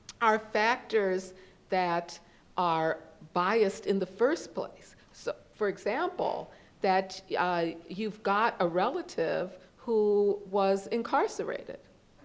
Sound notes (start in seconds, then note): none